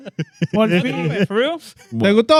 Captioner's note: speaking In Foreign Language